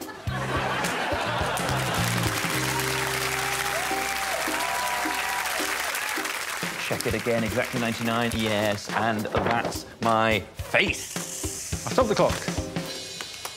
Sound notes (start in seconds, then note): 3.5 audience laughing and clapping; 5.7 audience cheering